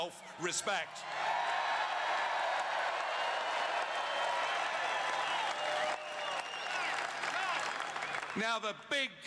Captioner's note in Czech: Potlesk